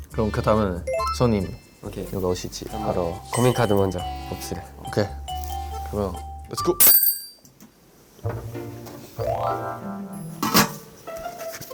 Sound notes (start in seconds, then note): 6.8 ding